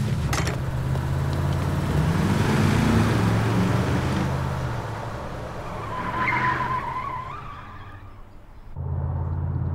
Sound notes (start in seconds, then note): 0.5 car engine revving; 6.5 tires squealing